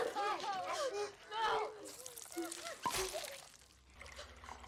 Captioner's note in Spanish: Gente exclamando